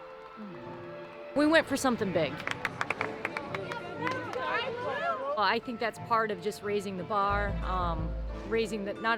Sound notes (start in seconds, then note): 4.5 hands clapping